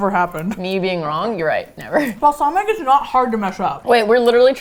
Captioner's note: laughing